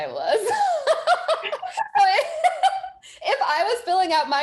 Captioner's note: both chuckling